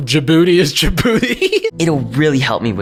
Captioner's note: laughs